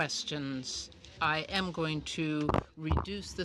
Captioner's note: speaking French